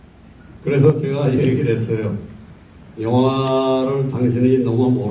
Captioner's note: in foreign language